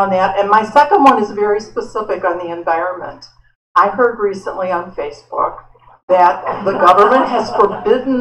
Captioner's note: laughter